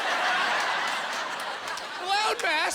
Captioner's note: laughing